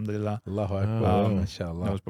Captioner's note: speaking in foreign language